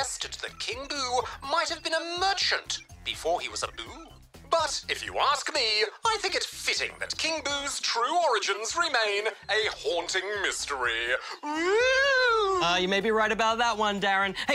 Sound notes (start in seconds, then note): 11.2 spookily